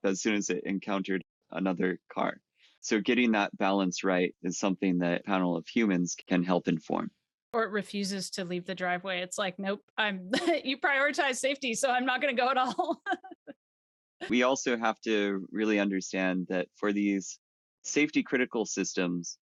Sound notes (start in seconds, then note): 10.3 chuckles; 12.4 laughs